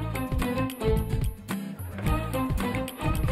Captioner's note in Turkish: Gülme efekti